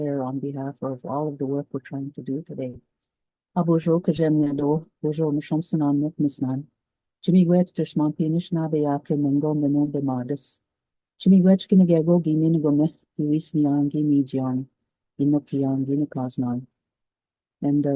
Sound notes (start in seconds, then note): 3.3 speaks in Cree